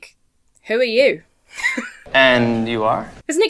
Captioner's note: laughs